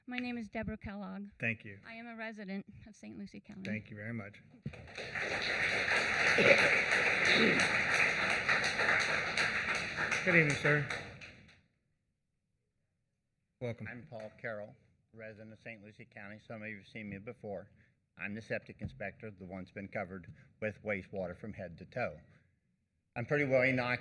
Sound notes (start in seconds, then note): 11.8 applause